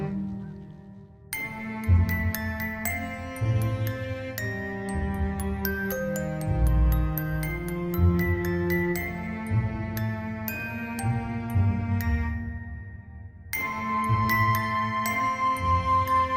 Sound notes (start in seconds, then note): none